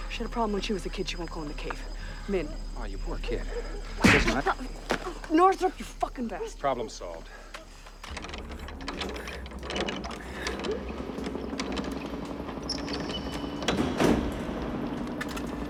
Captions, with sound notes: SHE HAD A PROBLEM WHEN SHE WAS A KID. SHE WON'T GO IN THE CAVE. AW, YOU POOR KID. LISTEN-- NORTHROP, YOU FUCKIN' BASTARD. PROBLEM'S SOLVED. [ Generator Humming ]